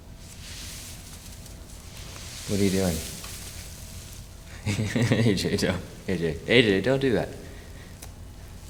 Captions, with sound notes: What are you doing? (laughing) A.J., don't. A.J. don't do that.